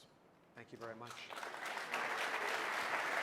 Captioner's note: applause